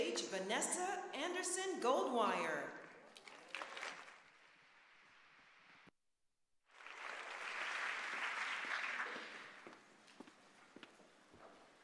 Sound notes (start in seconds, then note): 8.7 applause